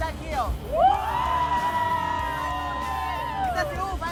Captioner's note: all cheering